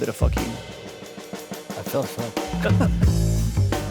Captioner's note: laughing; casual jazz music